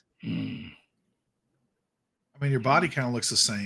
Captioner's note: Pivam grunts